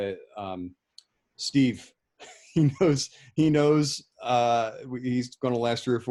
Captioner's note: chuckling